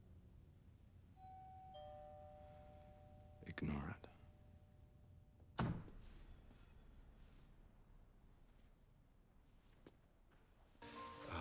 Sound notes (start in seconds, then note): 1.2 doorbell rings